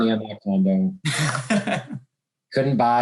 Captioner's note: laughs